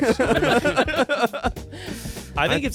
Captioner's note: everyone laughs